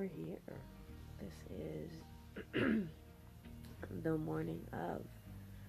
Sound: clears throat

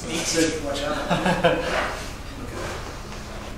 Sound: laughs

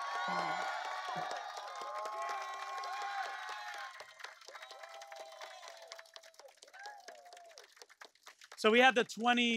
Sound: applause

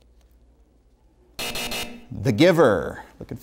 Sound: buzzer sounds

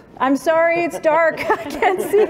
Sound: laughter

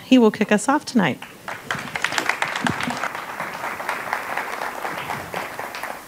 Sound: audience applauding

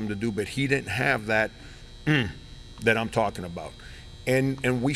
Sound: grunts

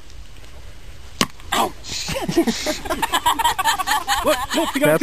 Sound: laughter

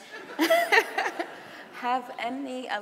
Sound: laughing

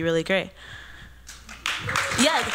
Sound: applause

